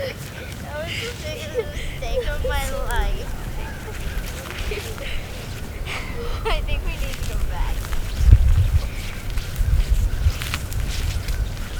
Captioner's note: kids talking